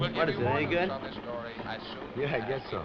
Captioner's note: radio Announcer